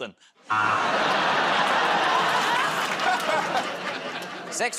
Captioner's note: laughter, buzzer